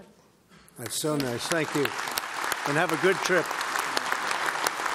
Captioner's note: applause